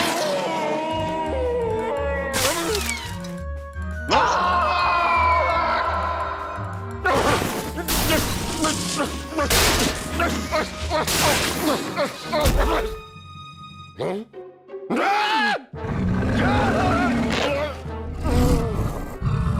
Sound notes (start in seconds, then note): 7.3 grumbling; 16.0 growling; 18.0 moaning